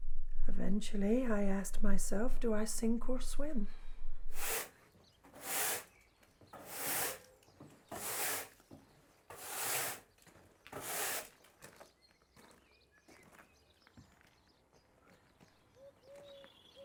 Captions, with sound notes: Eventually, I asked myself, do I sink or swim. [broom rustling on floor] [birds chirping]